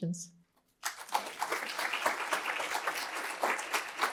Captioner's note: applause